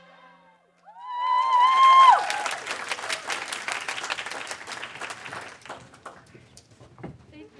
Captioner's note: cheers; audience applaud